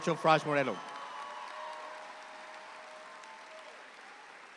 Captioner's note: audience applauds